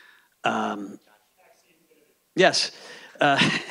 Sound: faintly speaking

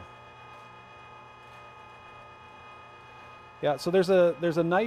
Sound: machine roaring

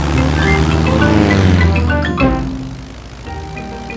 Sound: plane engine revving

